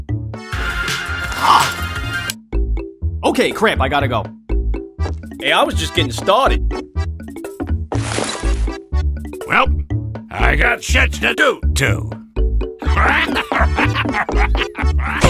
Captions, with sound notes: Okay сr@р, i gotta go! Eh, i was just gettin' started... Welp... I got stuff to do too... *happy noises*